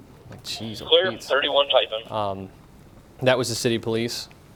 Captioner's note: police radio chatter